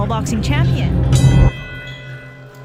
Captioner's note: bell ringing